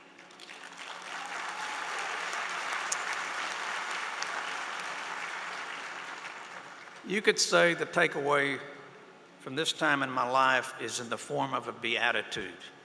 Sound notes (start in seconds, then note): 4.4 applause